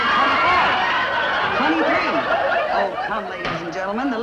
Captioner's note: audience laughs